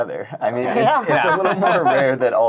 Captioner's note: laughing